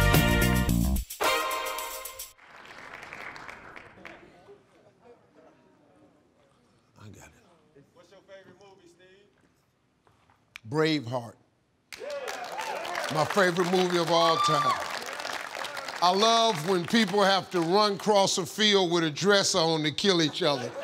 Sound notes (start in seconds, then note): 2.3 audience applauds; 11.9 audience cheering